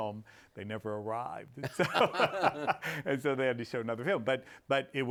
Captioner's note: both laughing